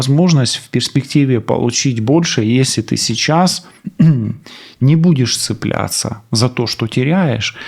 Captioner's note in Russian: откашливается